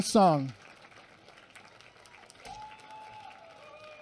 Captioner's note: applause